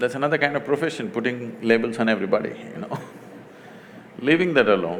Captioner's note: laughs